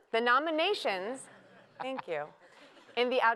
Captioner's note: laughter